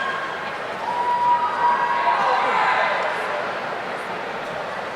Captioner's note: audience cheering